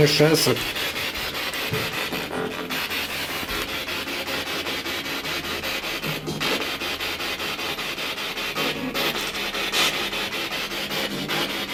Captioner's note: radio noise from the spirit box